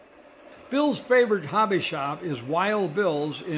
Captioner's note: voiceover